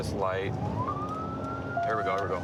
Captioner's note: sirens